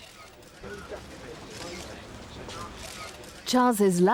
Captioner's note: cameras shuttering